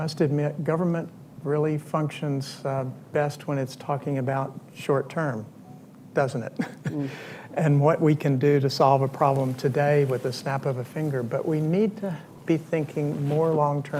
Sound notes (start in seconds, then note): 6.7 laughs